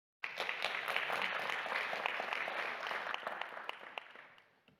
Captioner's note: audience applauding